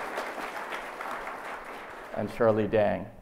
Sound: audience applauds

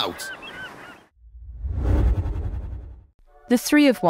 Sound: whoosh sound

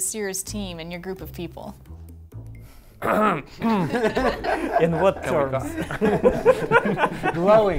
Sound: laughter

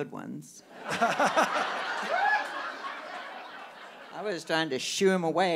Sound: audience laughing

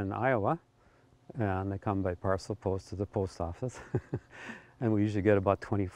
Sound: chuckles

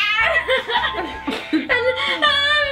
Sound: laughing

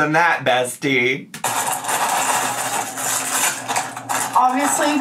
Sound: salad bag crumpling

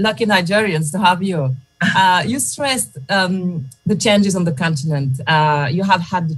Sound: laughter

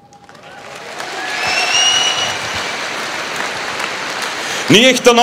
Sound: applause, cheering

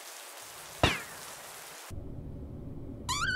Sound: pew

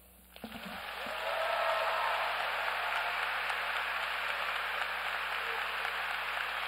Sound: audience applauds

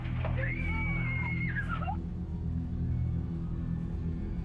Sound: girl screams

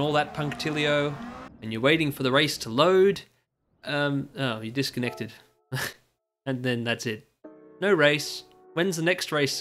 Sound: exhalaugh

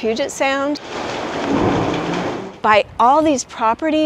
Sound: water gushing and pounding

